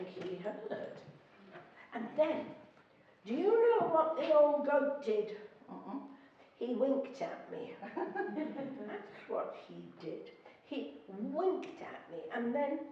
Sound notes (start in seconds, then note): 7.7 laughing